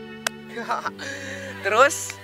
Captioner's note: inhale